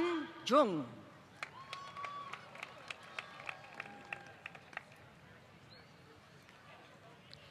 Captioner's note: applause